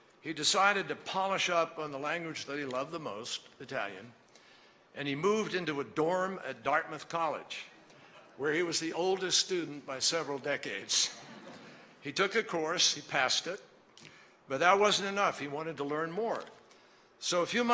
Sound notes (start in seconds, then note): 11.2 laughter